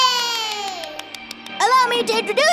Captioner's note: clapping